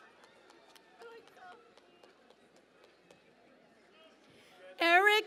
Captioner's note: cheering and Applause